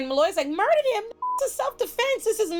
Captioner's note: beep